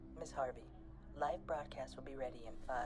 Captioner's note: digital Female Voice